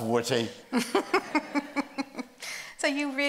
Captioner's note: group laughs